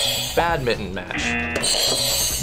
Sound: buzzer rings; buzzer

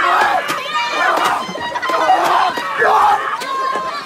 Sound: pool noodle slapping; Trevor screams

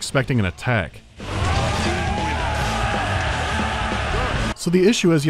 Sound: reasonably dampened cheers

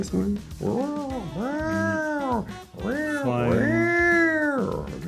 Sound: pterodactyl noises

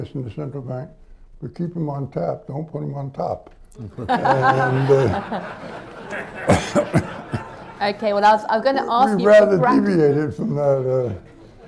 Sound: laughter

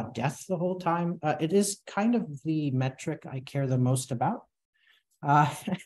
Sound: chuckles

